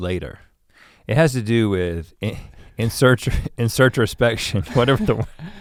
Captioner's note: chuckles